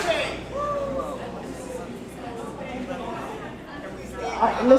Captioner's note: crowd murmuring